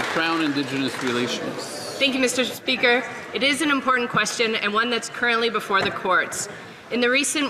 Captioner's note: some Applause